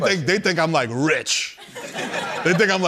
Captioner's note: laughter